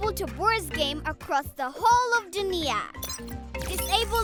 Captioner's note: beeping